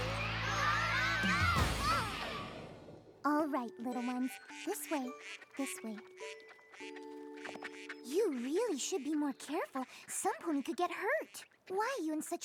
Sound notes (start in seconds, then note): 6.2 quacking